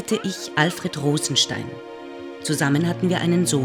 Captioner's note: baby cooing